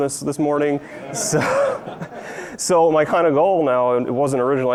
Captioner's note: audience laughs